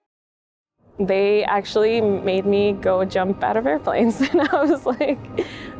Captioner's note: chuckles